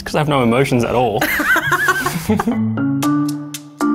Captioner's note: both laughing; upbeat music